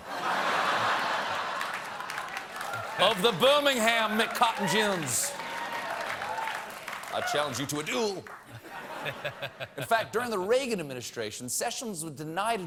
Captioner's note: laughter